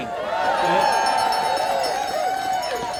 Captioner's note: audience cheering